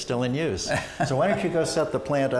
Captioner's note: ^laughter^